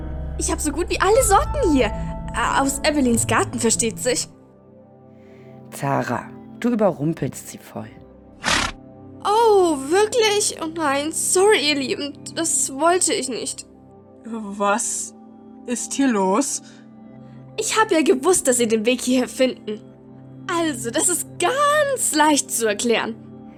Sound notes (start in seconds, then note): 8.4 approving snort